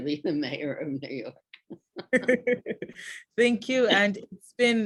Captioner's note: laughs; laughs